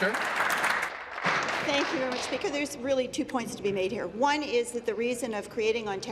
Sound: applause

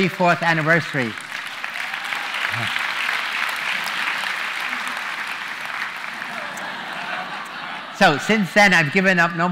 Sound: applause

